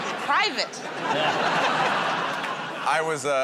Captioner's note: laughter